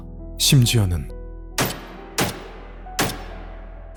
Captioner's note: gunfire